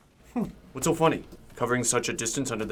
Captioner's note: scoffs